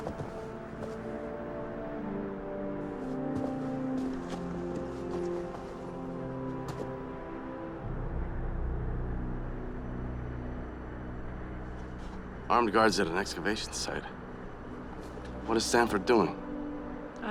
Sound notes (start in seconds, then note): none